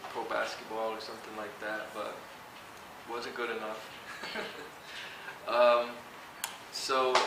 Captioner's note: chuckle